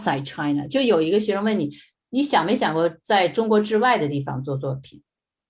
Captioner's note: speaking in foreign language